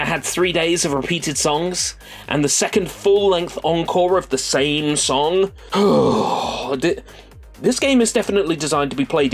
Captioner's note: breathes